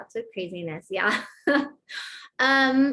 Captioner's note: laughter